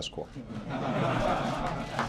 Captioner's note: laughter